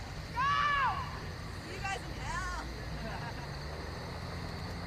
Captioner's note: laughter